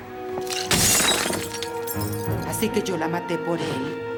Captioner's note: crash